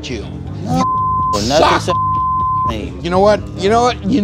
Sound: beep

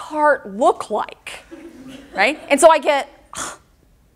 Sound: audience laughter

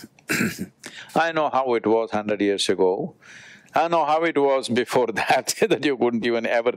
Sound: laughs

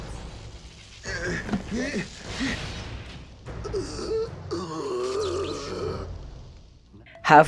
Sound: tortured groaning

